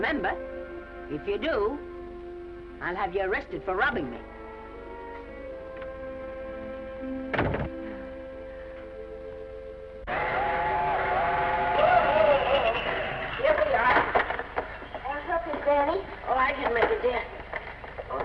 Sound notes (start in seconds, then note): 4.5 gentle music; 7.3 door latches; 7.8 Esther sighs; 10.2 train horn blaring